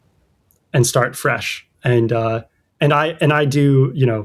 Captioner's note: uh